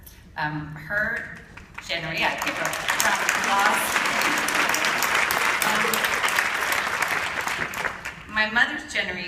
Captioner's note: appaluse